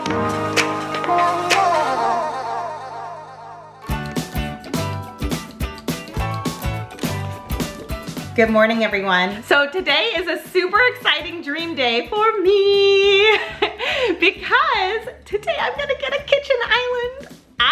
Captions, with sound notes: (upbeat music) Good morning everyone, so today is a super exciting dream day for me (laughs) because today I'm gonna get a kitchen island.